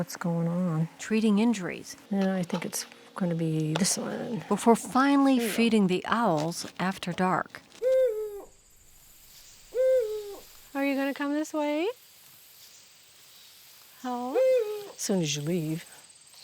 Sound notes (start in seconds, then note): 8.9 owl h hooting